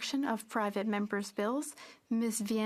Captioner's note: speaking French